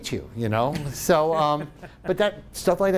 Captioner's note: laughing